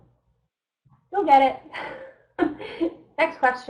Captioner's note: chuckles